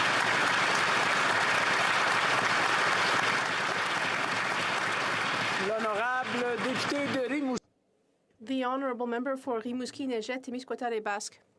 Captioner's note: applause